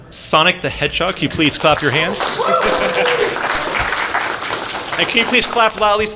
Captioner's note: applause